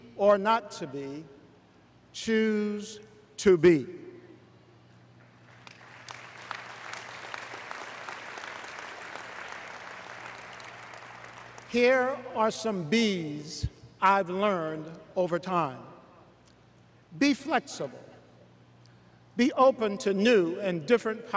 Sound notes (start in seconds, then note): 7.8 applause